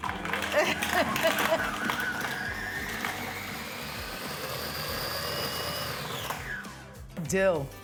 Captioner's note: food processor whirring; laughs